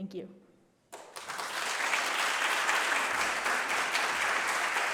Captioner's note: applause